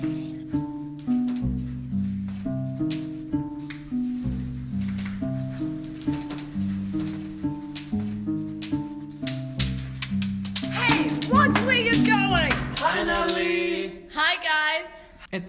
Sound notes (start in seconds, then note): 0.3 mellow music; 3.8 canes tapping